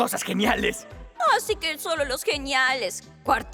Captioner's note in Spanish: Burlándose